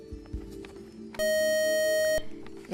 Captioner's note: beep